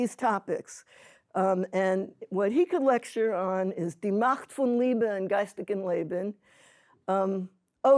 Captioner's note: speaking hebrew